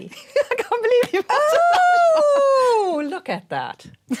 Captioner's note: laughter